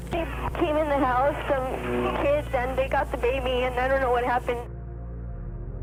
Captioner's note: girl speaking on phone